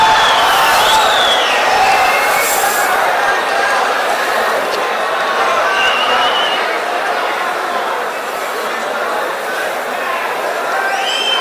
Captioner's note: wild applause and cheering for 22 seconds